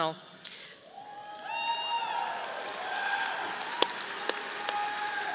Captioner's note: audience cheering